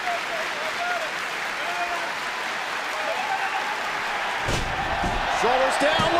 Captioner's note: clapping